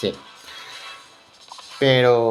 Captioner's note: holding breath